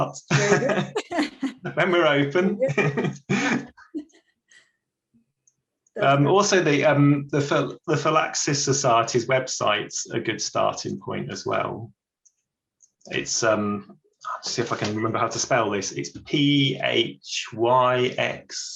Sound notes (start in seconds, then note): 3.9 laughs